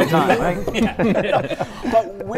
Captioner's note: laughter